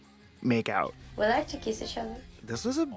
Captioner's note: soundbite of archived recording